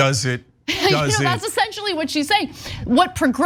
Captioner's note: laugh